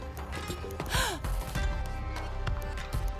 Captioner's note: gasping